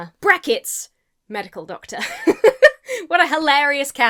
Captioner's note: laughs